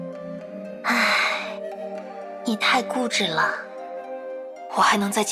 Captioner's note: sigh